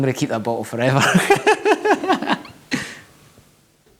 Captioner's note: laughing